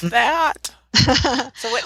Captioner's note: laughter